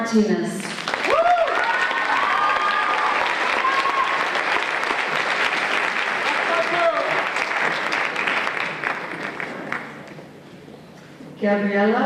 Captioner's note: applause